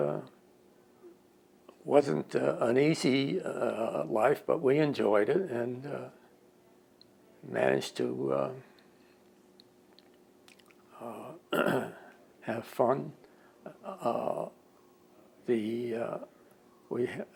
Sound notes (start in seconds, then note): 11.5 clears throat